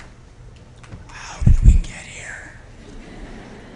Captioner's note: whispering